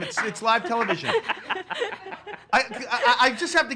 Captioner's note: laugh